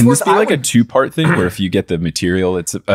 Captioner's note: clearing his throat